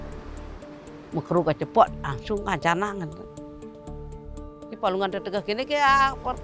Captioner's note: speaks in a foreign language